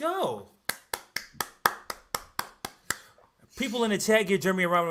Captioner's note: clapping